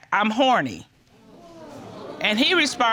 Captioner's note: audience gasping